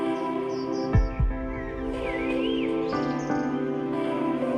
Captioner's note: birds chirping; gentle music